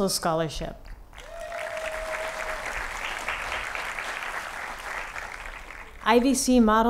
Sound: applause

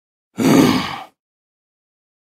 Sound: grunt

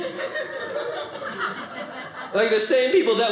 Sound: audience laughing

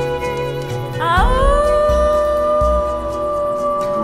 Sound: Maanu howling

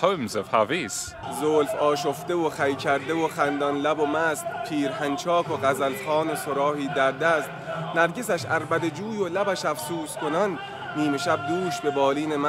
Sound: speaking Persian

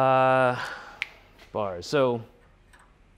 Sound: snap

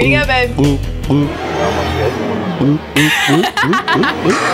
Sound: gulping; laughing

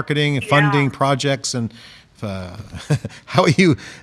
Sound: chuckles

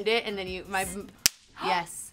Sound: belt snapping together

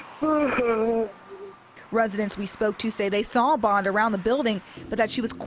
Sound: crying

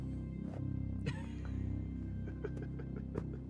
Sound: person laughing; gentle music

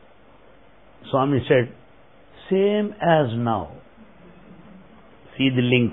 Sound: laughter

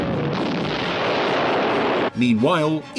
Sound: loud explosion

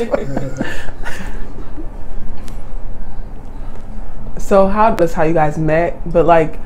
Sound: laughter

